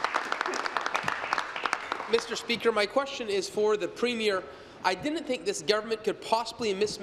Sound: applause

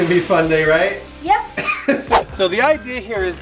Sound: coughing and laughing

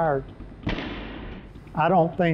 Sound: whooshing; muffled gunshot

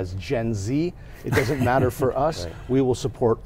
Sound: laughing

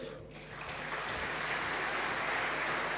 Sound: applause

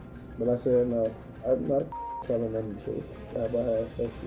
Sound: beeping

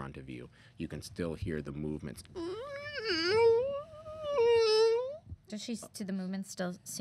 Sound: eerie screeching

